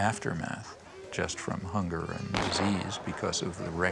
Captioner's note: gunshot booming